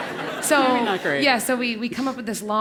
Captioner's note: laugh